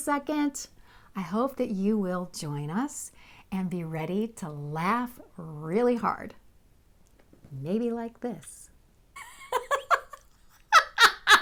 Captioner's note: laughing